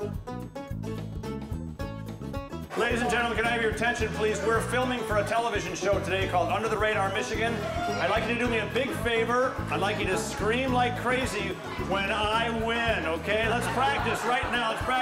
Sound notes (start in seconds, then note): 13.4 laughing